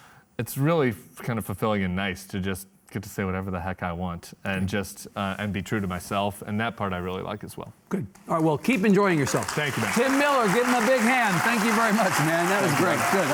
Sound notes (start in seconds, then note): 8.6 audience applauding